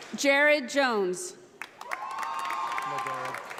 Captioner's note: audience applauding